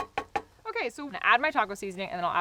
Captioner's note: tapping pan